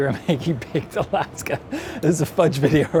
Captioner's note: laughs